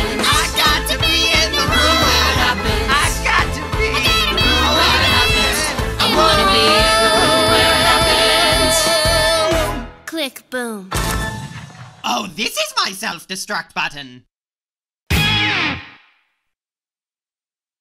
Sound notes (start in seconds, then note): 11.3 explosion; 15.2 guitar sting